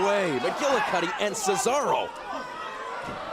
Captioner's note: crowd cheering